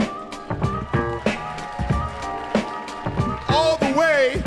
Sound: audience cheering

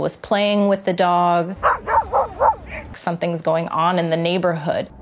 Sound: dog barking

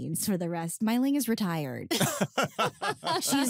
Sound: laughter

